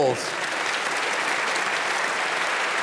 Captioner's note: applause